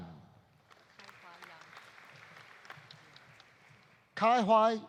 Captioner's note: audience applauding